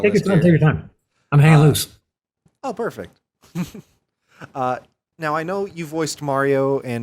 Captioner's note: chuckles